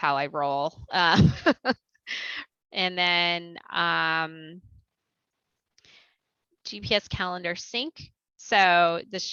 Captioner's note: laughter